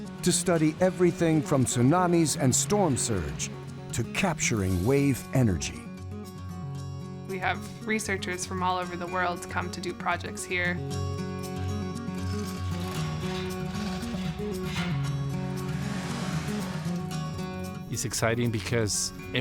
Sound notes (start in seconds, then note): 12.2 chain rattling; 16.3 water splashes